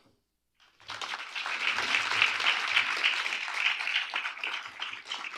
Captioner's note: applause